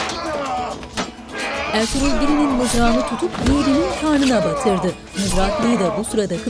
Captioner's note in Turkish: Dövüş sesleri